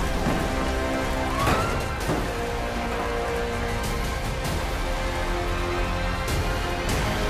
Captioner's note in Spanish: Estruendo; Gritos